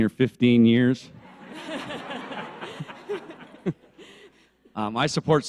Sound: audience laughs

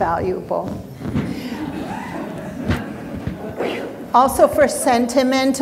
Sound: audience laughs

